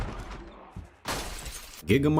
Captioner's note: Zombies banging on the windows; zombies breaking the windows